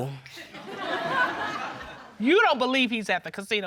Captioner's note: audience laughing